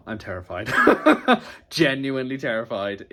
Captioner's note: laughs